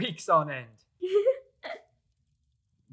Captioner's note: laughs